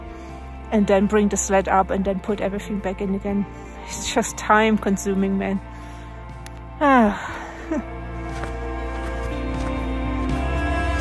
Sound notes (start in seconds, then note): 7.0 sigh; 10.2 sound of walking in the snow